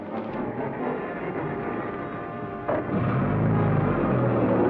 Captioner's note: truck rumbling